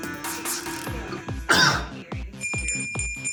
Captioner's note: cough; bell Jingles